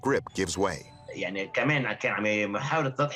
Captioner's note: speaking french